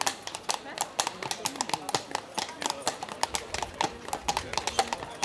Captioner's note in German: Geräusch von Pferdehufen